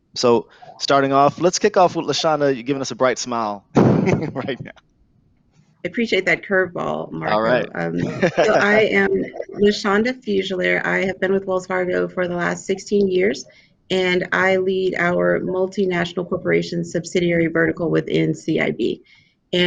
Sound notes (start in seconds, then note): 4.0 laughs; 7.2 laughs